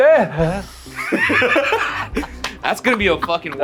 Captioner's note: laugh